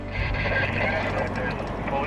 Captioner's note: radio static